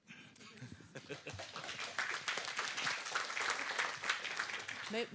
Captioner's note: applause